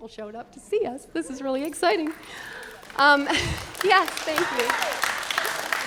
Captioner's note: chuckling; applause